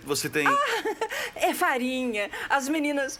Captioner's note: laughs